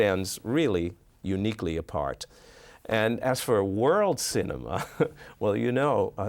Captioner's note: chuckles